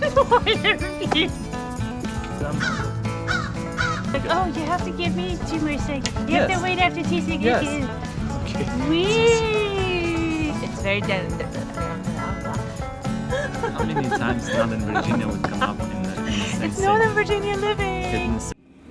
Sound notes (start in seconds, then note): 0.0 laughing; 3.2 crow cawing; 13.2 laughing; 18.7 upbeat music